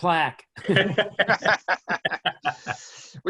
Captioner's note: laughs